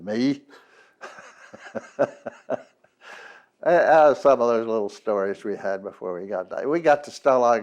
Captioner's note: laughs